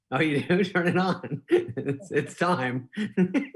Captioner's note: laughing